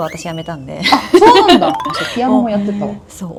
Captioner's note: laughs